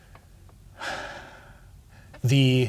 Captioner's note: exhales